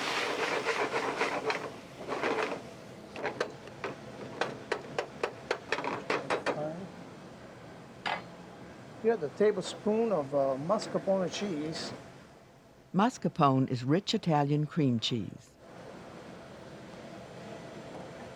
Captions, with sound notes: Add the tablespoon of mascarpone cheese. - [Voiceover] Mascarpone is rich Italian cream cheese.